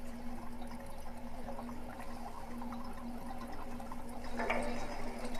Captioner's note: slight water drops